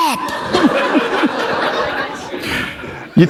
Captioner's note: laughter